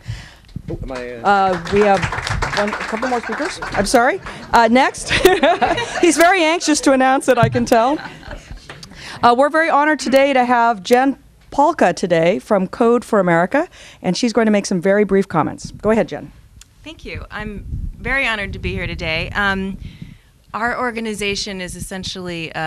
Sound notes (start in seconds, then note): 5.0 laughter